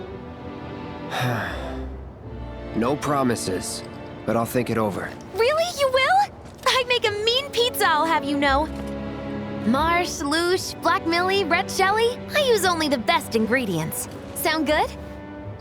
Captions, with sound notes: [sighs] No promises, but I'll think it over. Really? You will? I'd make a mean pizza, I'll have you know. I use only the best ingredients. Sound good?